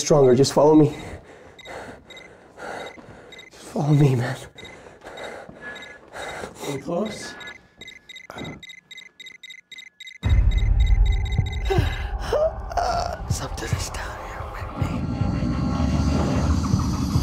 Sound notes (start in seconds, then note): 4.2 beeping intensifies; 11.6 wade gasps